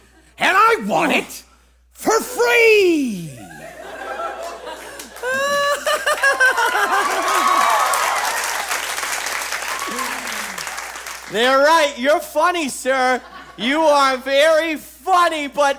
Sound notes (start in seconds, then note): 4.4 audience applauses; 5.2 General Store Guy laughs